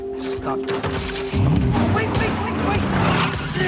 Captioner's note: engine roars